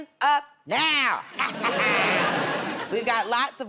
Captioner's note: laughter